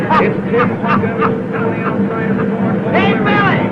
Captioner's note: happy laughing